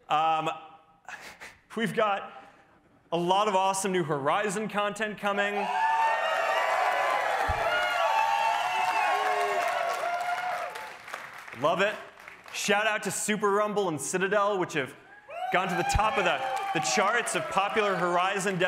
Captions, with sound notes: We've got a lot of awesome new Horizon content coming. [CHEERING] Love it! Shout out to Super Rumble and Citadel, which have gone to the top of the charts of Popular Horizon destinations.